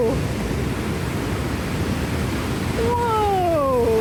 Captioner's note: loud water flowing